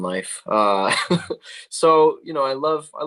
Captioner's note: chuckling